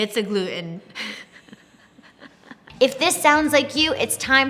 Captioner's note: laughing